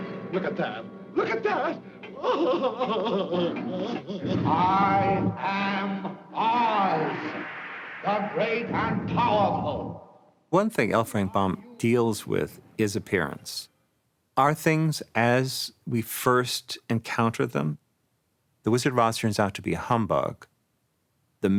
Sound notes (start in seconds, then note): 2.1 Cowardly Lion whimpering